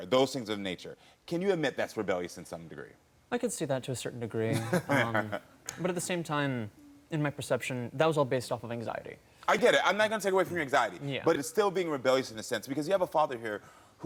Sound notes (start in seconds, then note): 4.5 Karamo laughing